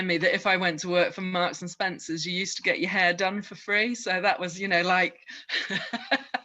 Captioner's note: laughs